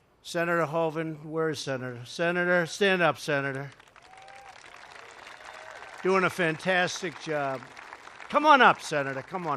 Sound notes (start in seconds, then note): 3.6 applause